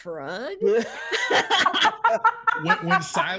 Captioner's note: people laughing